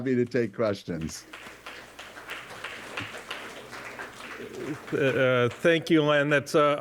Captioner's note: applause